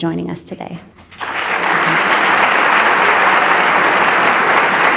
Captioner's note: audience applauding